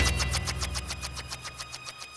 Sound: spinning

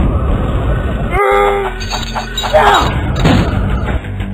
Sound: Lobo grunts and yells

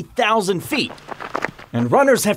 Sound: gravel shifting

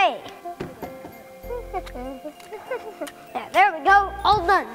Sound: humming

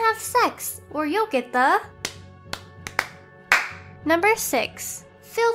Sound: clap

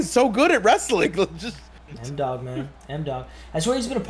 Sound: laugh

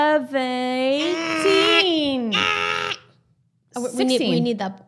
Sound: throat growling

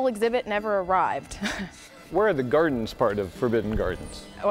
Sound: chuckles

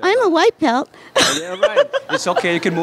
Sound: laughter

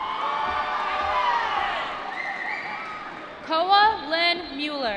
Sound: applause

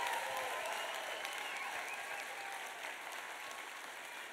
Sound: applause

